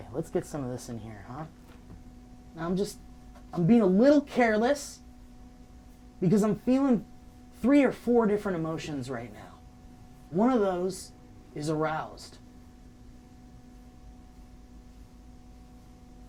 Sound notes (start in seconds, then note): none